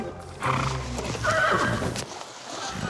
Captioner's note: snorts; neighs